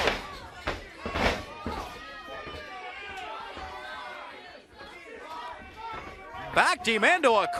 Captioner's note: crowd chatter